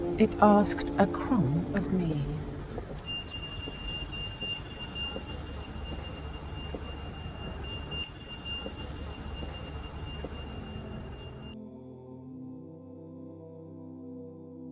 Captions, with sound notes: It asked a crumb of me. (melodic ringing sound) (enchanting choir music)